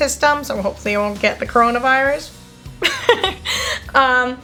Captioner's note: laughs